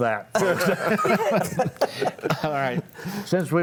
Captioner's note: panelists laughing